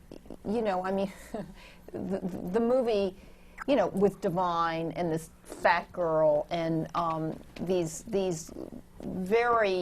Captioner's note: laughs